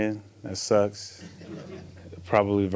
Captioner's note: people laugh